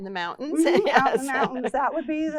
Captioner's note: laughing